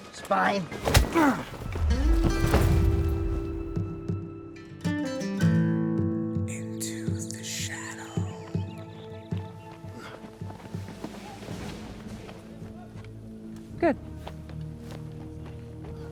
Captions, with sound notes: - It's mine. (soldier grunts) (gentle music) - [Faint Voice] Into the shadow. - Good.